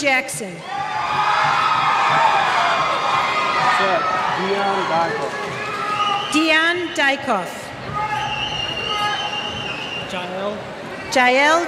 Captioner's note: cheers